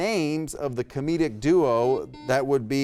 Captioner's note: buzzer beeps